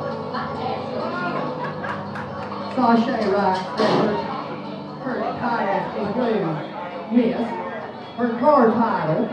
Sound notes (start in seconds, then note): 4.2 gunshot